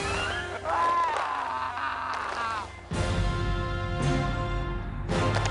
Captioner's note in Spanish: Quejidos